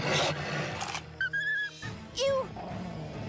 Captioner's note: whimpering